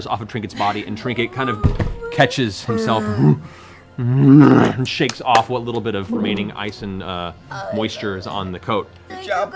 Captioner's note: bear grunts